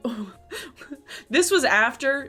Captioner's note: chuckles